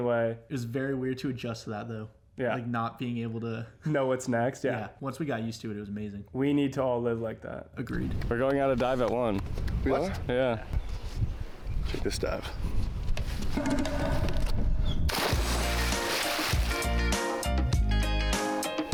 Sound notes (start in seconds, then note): 15.1 water splashing; 15.2 reggae music